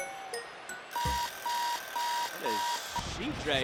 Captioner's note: alarm ringing